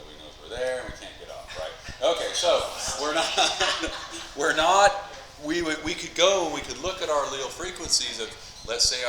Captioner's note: class laughs